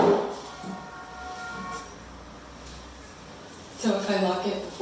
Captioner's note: distant horn honks